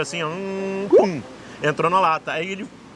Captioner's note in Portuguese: imita zumbido de abelha